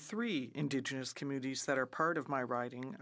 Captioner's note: speaking French